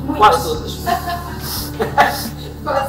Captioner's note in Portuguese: Risos